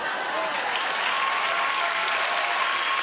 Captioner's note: cheers and applause